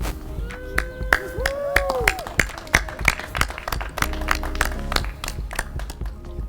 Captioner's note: applause